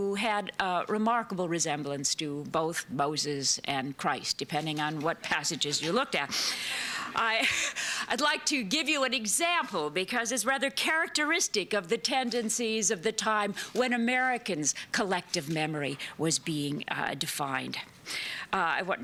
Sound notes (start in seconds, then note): 6.3 laughter